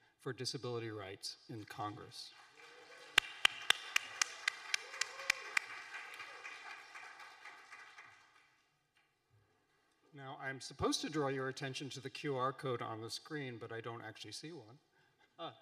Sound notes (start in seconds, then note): 2.2 audience applauding